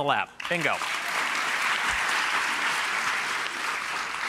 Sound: clapping

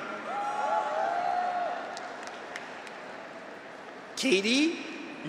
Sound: graduates cheer; audience applauds

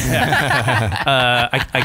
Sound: laughter

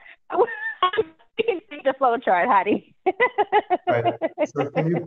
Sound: laughs

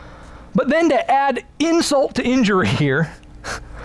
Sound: chuckles

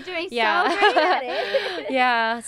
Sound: laughs

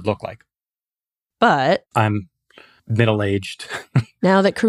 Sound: laughs

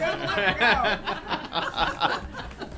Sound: laughter

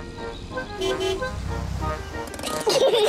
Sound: honks horn; peppa and george giggle

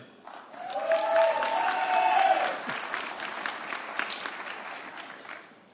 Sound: audience cheering

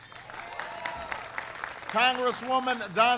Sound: applause

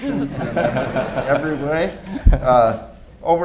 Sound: laughter

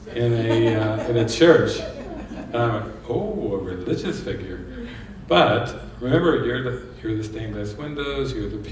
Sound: laughs

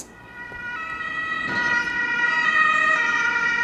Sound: emergency vehicles driving past

